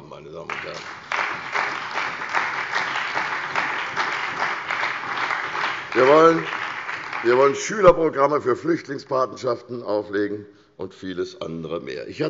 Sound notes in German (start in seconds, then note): 4.1 Beifall bei der CDU und dem BÜNDNIS 90/DIE GRÜNEN